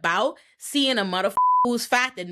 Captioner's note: beep